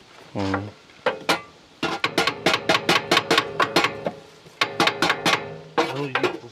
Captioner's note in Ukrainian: помірний стукіт молотком